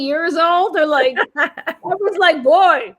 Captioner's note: laughter